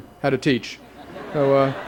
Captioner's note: laughter